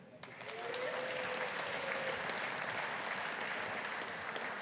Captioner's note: audience applauding